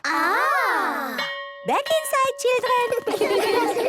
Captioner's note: school bell